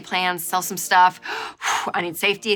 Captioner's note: inhaling and exhaling